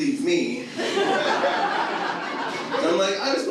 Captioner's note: audience laughs